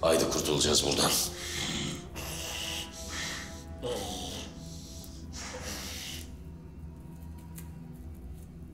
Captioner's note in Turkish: Homurdanma Sesleri